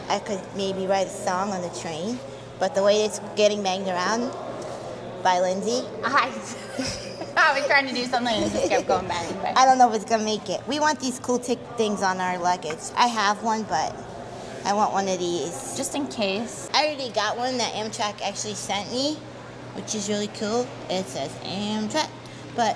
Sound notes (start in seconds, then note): 6.4 laughs